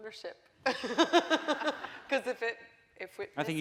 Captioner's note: laughing